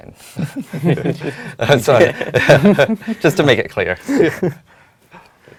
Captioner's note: laugh